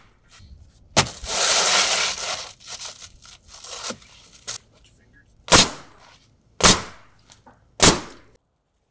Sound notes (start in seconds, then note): 5.6 nail gun bangs